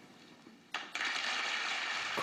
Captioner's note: applause